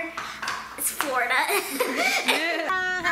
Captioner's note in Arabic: يضحك